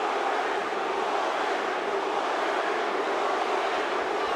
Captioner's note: crowd chanting